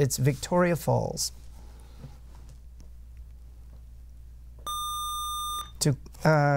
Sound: buzzer

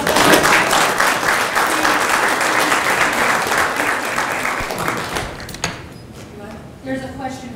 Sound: applause

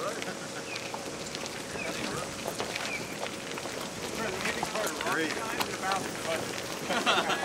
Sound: foot steps

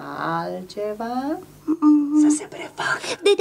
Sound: whispers

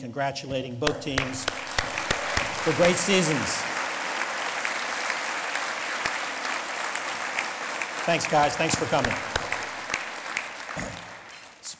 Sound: lead Applause

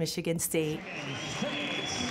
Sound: someone blows a whistle; announcer speaks distantly

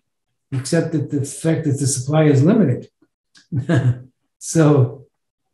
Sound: laughs

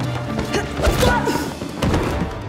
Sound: Brom exclaims

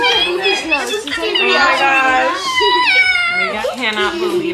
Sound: everyone talking excitedly

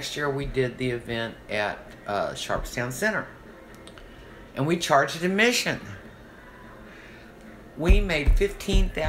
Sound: thumping table

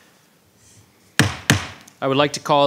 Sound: gavel bangs

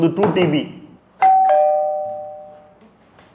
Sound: calling bell

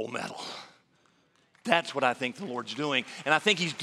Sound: applause

